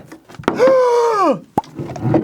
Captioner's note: kirby-like inhale/gasp